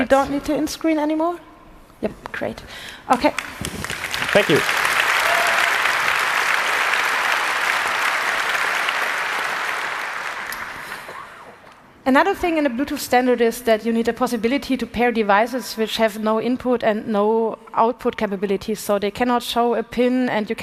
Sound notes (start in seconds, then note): 3.2 applause